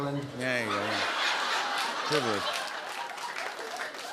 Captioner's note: laughter and applause